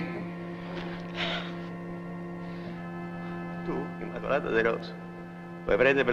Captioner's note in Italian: immacolata piange